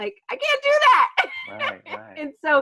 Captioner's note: laughs